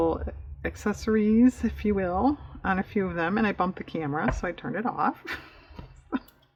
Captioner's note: laughs